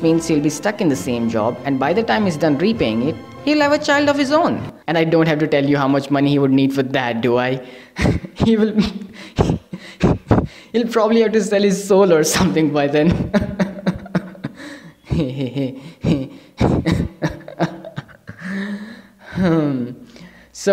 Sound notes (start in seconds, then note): 8.9 laughs; 13.0 nervous laughter